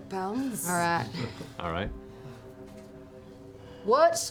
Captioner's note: laughs